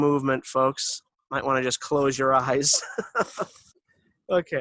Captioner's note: laughs